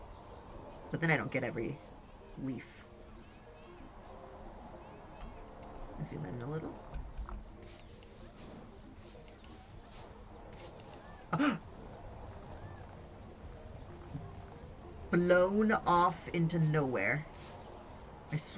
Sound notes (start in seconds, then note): 11.2 gasps